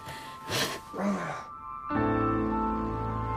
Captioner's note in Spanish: se queja